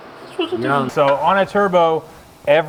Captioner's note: exclaims comically